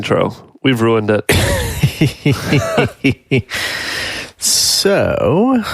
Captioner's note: laughing